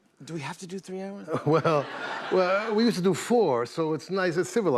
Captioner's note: laughter